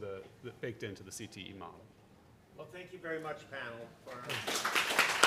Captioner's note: applause